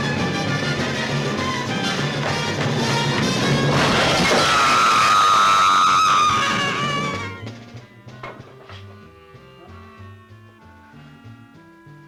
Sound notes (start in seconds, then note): 3.7 gun firing; 3.8 screaming